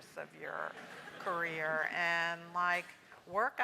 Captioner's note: laugh